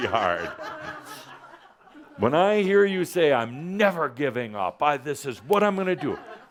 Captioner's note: some laughter